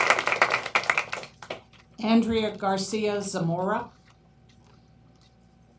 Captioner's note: applause